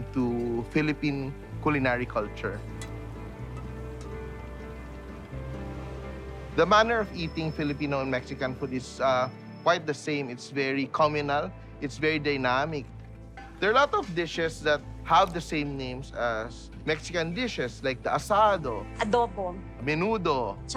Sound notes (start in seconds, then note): 2.6 spoon clanking